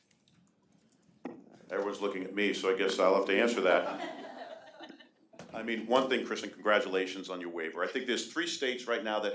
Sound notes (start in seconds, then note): 3.4 audience laughing